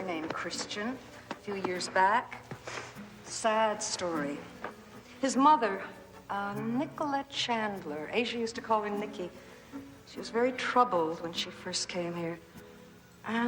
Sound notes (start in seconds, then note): none